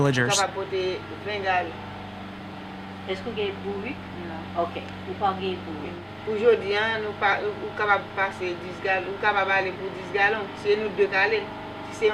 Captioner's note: speaking in Creole